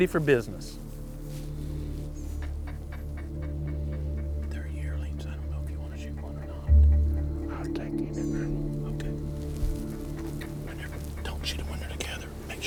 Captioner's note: whispering; whispering